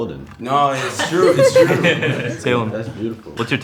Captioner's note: all laughing